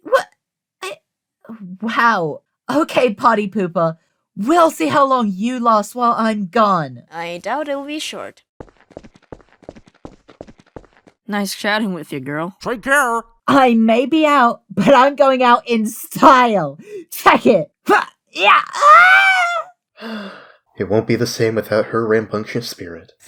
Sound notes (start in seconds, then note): 18.4 screaming; 20.0 sigh